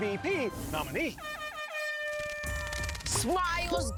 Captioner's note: air horn blares